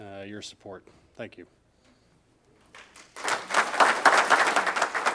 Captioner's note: group applauding